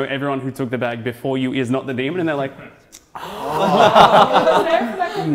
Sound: pondering loudly

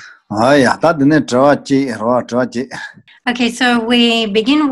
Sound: foreign language

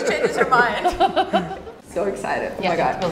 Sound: laughs

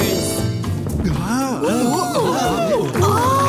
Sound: gasping; cheering

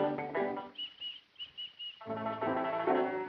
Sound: peeping

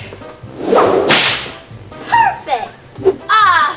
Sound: whip snap

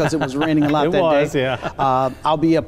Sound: laughs

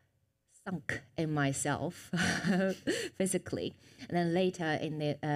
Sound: chuckles

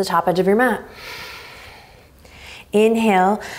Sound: exhaling strongly

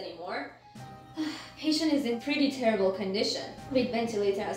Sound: sigh

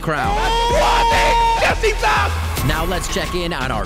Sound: shouting in foreign language

